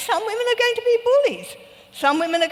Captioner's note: none